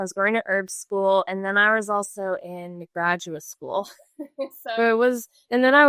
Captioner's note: laughs